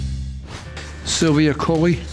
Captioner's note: air whooshing